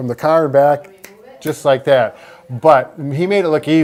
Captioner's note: snaps